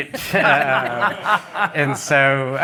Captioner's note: laughter